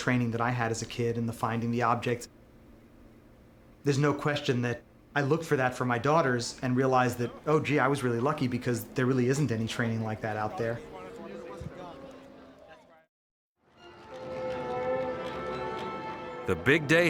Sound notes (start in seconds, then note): 11.5 group chatting; 13.7 orchestra music